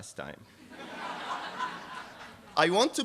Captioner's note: laughter